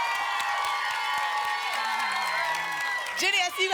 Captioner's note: applause and cheering cont